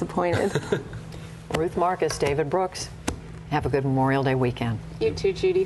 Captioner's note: laughter